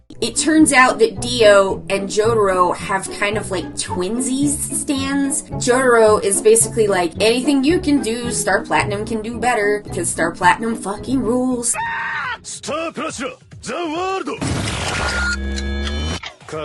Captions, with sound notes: It turns out that Dio and Jotaro have kind of like twinsies Stands. Jotaro is basically like anything you can do, Star Platinum can do better 'cause Star Platinum fucking rules. (Koichi screams) - Star Platinum, za warudo! (ominous electronic music)